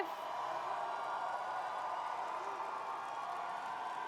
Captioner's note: cheering